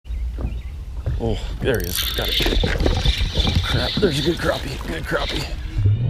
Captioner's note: birds chirping; reeling fishing line; intro music